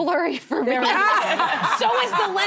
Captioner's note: laughing